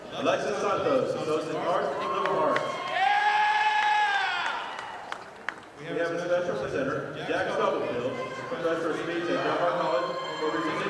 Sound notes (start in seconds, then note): 2.0 audience applauding